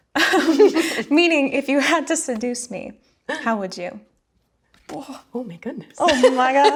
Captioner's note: shudders